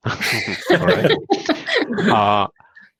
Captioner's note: laughter